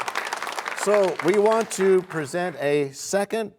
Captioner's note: cheers and applause